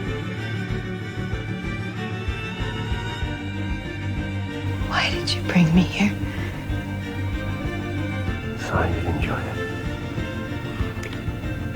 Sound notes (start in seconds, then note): 5.0 voiceover; 8.7 whispering